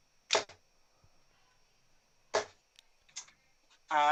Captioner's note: dart ticks